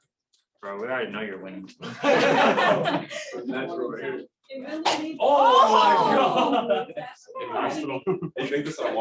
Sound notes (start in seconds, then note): 1.8 laughter